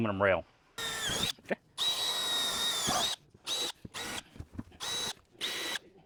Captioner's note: drilling